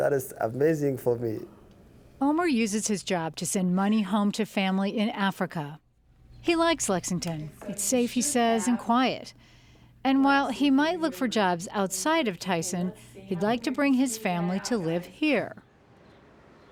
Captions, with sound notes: - [Voiceover] Omar uses his job to send money home to family in Africa. He likes Lexington. "It's safe," he says, "and quiet." And while he might look for jobs outside of Tyson, he'd like to bring his family to live here.